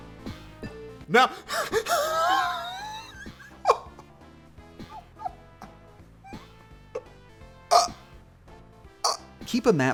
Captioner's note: exhasperated laughter